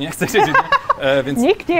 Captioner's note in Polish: śmiech